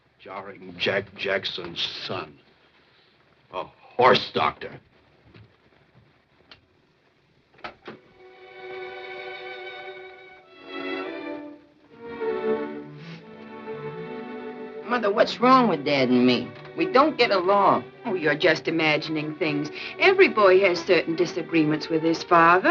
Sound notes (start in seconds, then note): 7.6 door opens; 8.2 dramatic theme playing